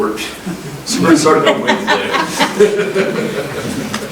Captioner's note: chuckles